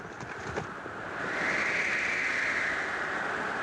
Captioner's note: wind howling